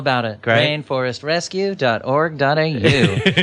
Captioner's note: laughs